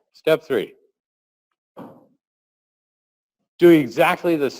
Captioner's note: pause